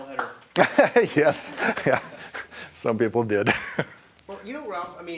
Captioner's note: applause; laughing